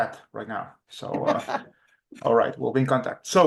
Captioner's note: laughs